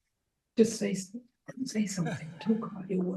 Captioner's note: audience chuckling